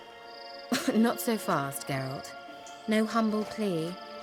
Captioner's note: chuckle